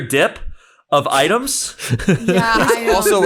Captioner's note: laughing